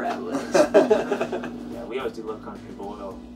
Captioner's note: laughing